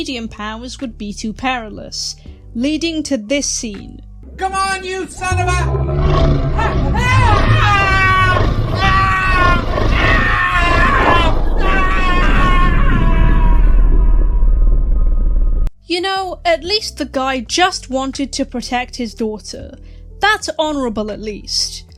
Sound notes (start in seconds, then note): 8.8 roaring + distorted screaming